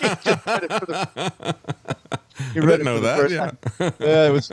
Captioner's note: laughing